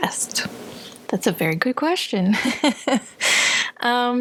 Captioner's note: laughter